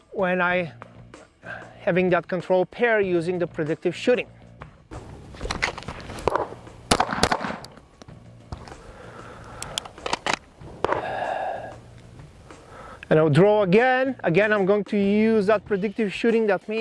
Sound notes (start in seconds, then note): 4.9 gun popping; 5.0 holster rattling; 9.3 holster clicks; 11.1 huffs